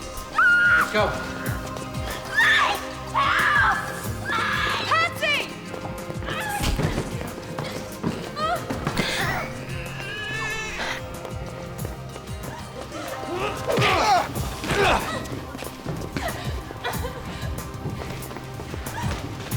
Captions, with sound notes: - Let's go. (screaming) - Patsy. (baby crying) (groaning)